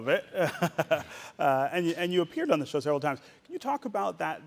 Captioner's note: chuckling